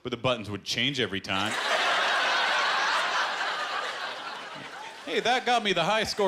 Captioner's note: laughter